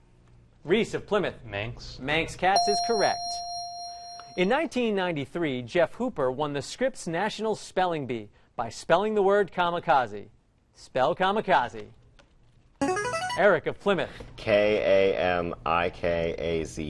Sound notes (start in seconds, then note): 2.5 ding; 12.8 ringer